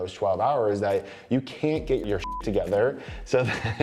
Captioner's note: beep